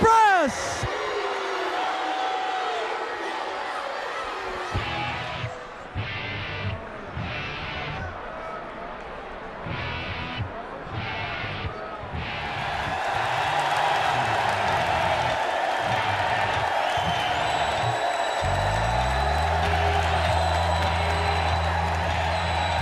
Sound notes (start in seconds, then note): 0.2 crowd chatter; 11.3 crowd cheering